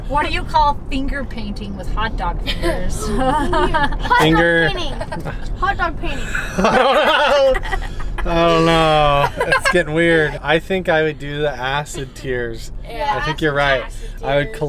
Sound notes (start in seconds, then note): 6.2 laughing